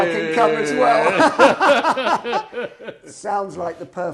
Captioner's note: laughing